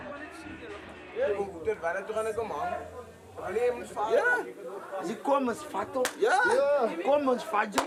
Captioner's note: speaking afrikaans